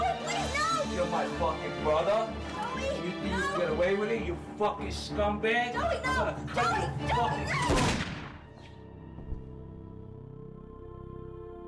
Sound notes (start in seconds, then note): 7.6 gun fires